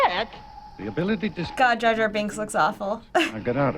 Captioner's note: chuckles